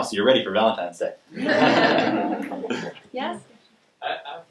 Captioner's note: laughing